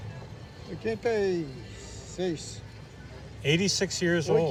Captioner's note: speaking Portuguese